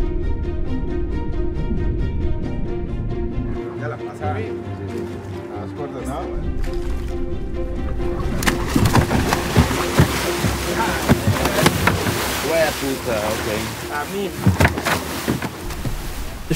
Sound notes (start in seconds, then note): 0.2 exciting music; 8.3 shark splashing; 9.2 people speaking in Spanish